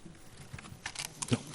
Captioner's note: whispering